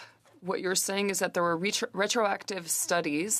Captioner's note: speaking in French